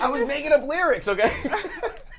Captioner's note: laughing